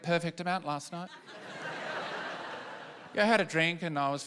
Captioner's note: laughter